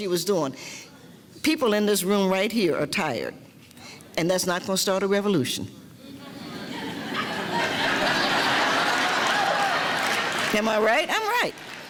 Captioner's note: laughing